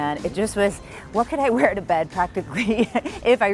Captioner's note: laughing